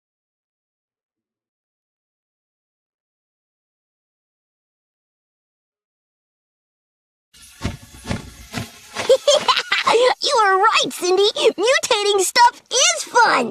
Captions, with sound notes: ( laughing ) You were right, Cindy, mutating stuff is fun.